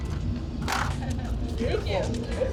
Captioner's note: laughing